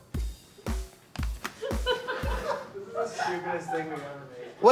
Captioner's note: woman laughing